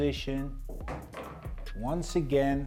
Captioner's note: ball bangs